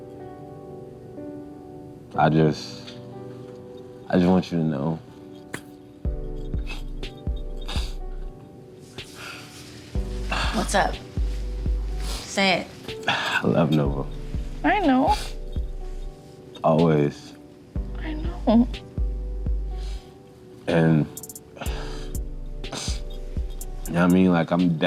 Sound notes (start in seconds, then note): 0.1 mellow piano music; 7.6 man sniffling